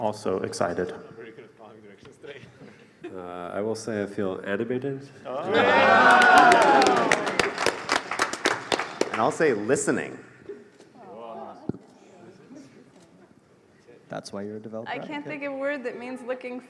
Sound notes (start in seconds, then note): 4.7 laughter; 5.7 applause